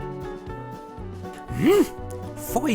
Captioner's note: grunt